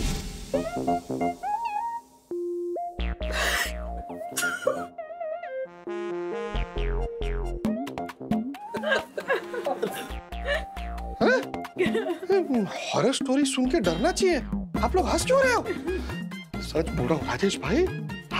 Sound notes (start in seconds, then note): 0.4 funny music; 4.3 chuckling; 8.7 laughing